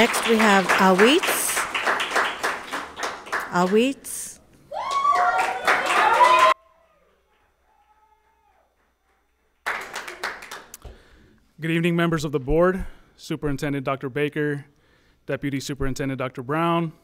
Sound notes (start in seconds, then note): 4.6 people cheer; 4.8 audience applauds